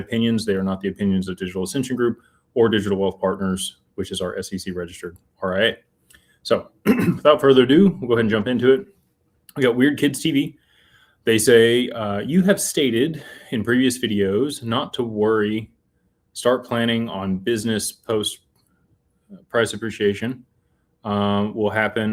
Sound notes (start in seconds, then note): 6.8 clears throat